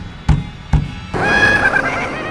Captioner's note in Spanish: risas malevolas